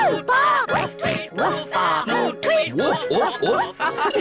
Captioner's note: all giggle